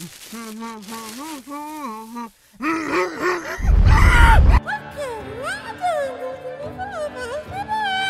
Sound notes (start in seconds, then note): 3.5 intense humming